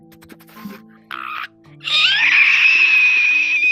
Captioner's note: crying noises XD